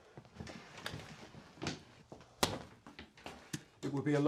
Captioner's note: intercom